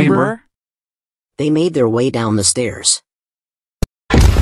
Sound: explosion

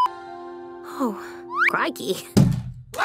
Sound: slide whistle

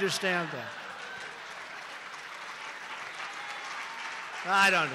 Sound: applause

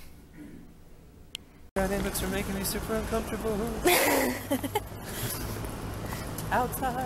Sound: laughter

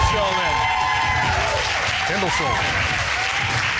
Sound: audience cheers

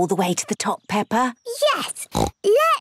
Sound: snorts

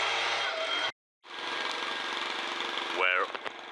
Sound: put put put put put putt putt putt

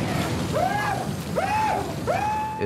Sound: shrieking

